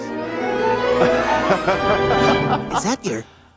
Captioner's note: laughing